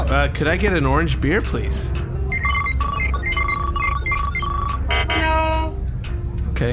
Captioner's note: beeping